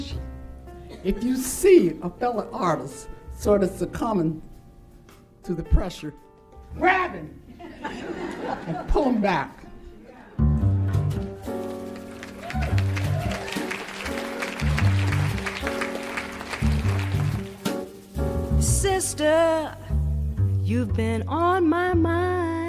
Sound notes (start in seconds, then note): 7.5 audience laughs; 9.4 audience cheers; 9.4 blues music